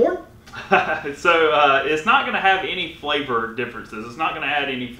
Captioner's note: chuckling